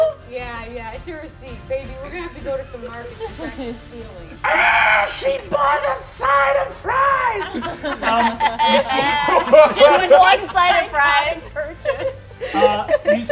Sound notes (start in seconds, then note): 4.2 shrieks; 6.9 all laughing